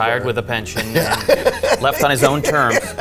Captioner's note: laughs